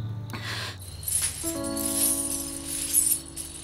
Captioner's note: Sound of anklets